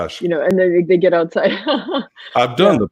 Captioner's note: laughs